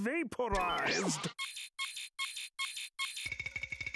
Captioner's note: beeping